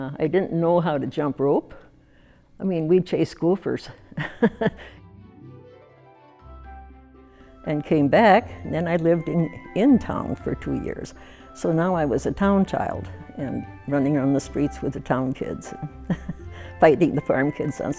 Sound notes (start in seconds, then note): 4.1 laughs